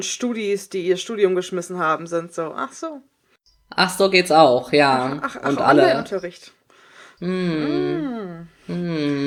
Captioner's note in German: sarkasmus; beide lachen